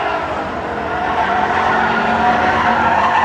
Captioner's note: engine revving